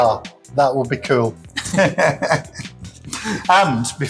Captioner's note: laughter